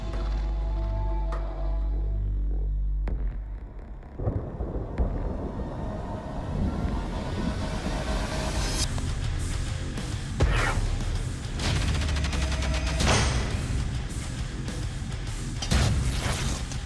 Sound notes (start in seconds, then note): 4.1 thunder rolls; 8.8 rock music